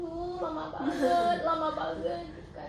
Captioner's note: is laughing